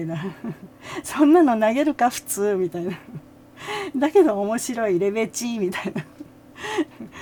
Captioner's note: laughs